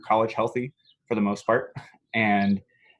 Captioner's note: laughs